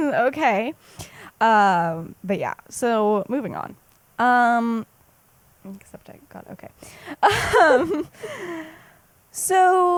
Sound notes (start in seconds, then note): 7.2 laughs